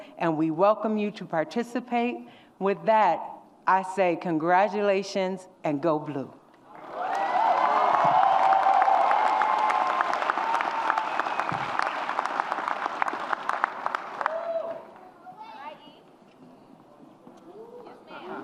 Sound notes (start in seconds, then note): 6.7 audience cheers